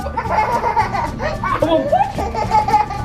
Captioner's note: giggles